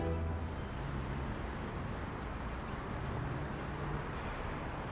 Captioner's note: vehicle engines revving